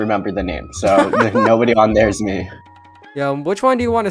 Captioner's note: laughs